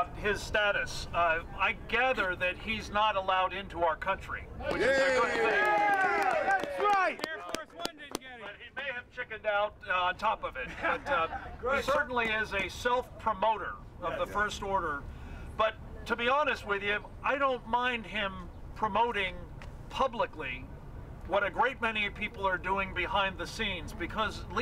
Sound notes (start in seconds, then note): 5.3 clapping